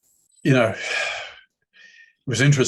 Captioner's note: sighs